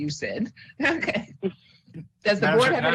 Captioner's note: chuckles